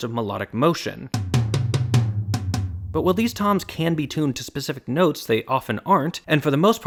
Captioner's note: bang